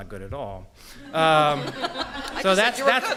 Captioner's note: laughter